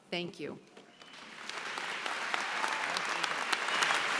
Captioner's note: applause